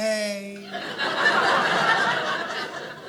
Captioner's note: audience laughing